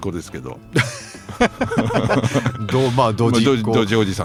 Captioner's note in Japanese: 笑い